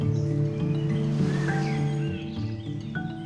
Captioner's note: birds chirping; gently lapping waves